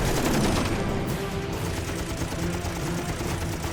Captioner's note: gunshots